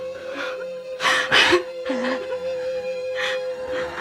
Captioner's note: sobbing